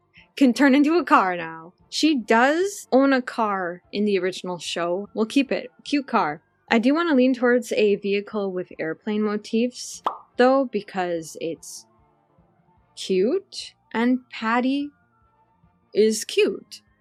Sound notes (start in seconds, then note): none